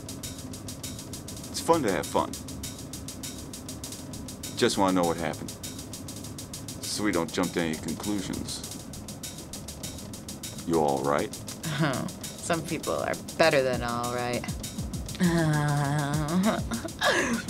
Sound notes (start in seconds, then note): 15.2 giggles